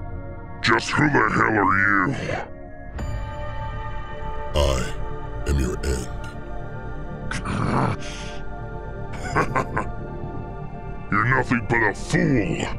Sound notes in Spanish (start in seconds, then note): 7.2 Gruñidos; 9.1 Risas